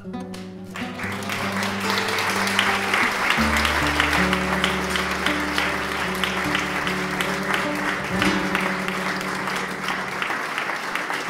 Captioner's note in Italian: applauso